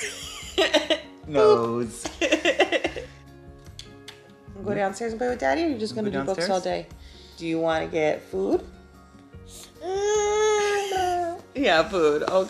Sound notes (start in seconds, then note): 0.0 laughing